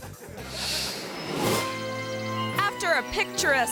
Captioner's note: audience laughing